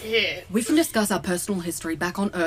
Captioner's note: raising her voice